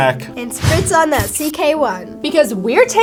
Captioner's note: spray whooshing